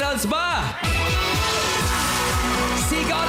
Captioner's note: applause, cheering